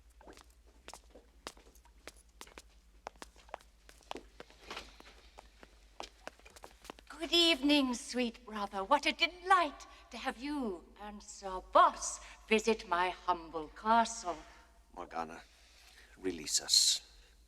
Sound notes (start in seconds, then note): none